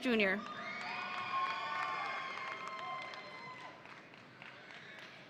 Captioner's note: audience cheering